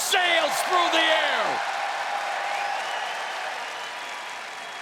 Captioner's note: crowd cheers